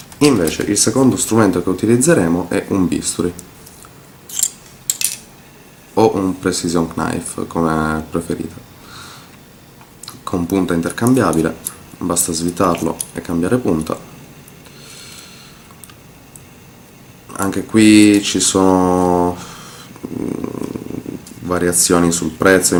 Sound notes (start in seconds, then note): 4.9 cling clang